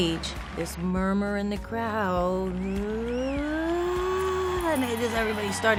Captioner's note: cheers